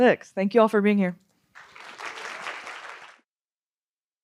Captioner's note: applause